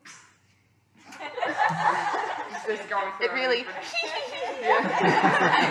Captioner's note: laughter